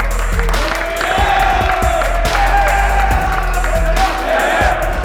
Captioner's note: clapping and cheering